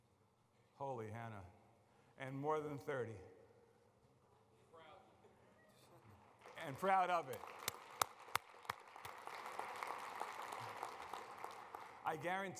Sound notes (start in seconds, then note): 6.1 applause